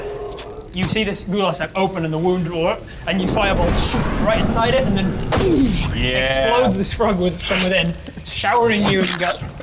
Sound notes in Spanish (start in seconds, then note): 3.3 pwush